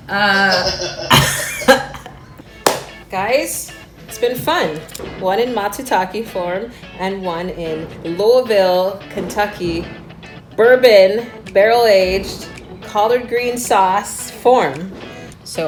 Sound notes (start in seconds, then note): 0.0 laughing; 2.3 claps hands